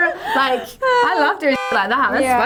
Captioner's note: laughing; horn